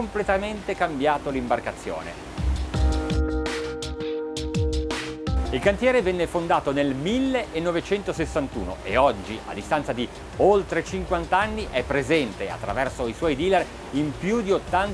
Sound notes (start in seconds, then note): 3.9 upbeat pop music; 6.0 speaking in foreign language